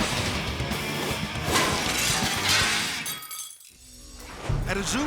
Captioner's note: upbeat music; glass shattering